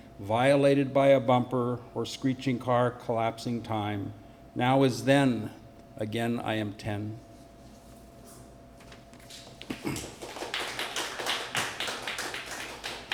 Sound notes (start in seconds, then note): 9.7 applause